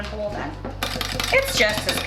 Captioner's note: whisk clanking